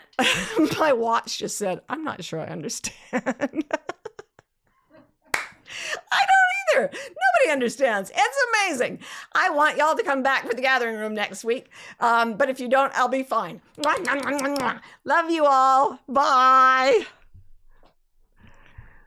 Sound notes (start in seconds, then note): 4.2 laughs; 5.3 claps; 13.8 blows kisses